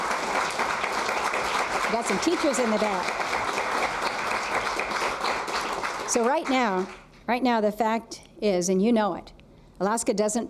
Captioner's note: applause